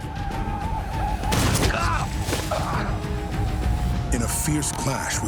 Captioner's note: gunshot, groan